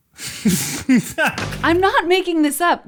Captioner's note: laughs